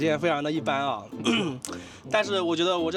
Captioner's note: tactical Clear Throat